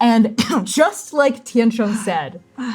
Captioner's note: coughing; sighing